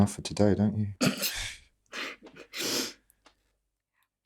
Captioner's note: Sarah laughs